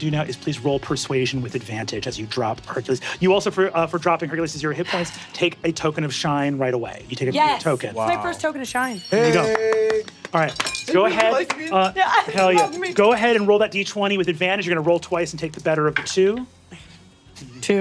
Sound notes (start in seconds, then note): 11.8 laughs